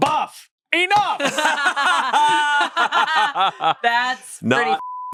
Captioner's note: everyone laughs